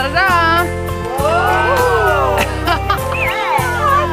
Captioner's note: group cheers